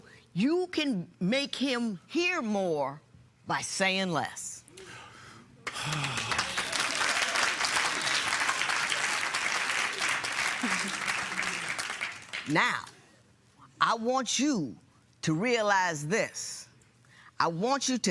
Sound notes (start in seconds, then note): 5.6 breathes deeply; 5.6 applause